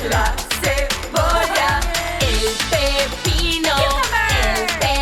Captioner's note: hablando en inglés